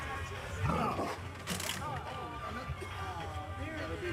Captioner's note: pig grunts